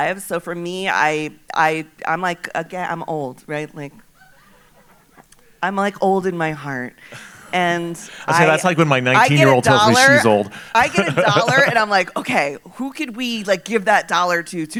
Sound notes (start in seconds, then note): 4.2 audience laughing